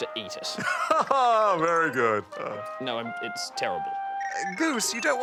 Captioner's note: chuckles